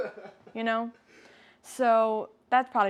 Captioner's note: laughs